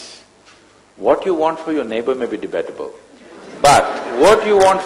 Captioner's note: laughter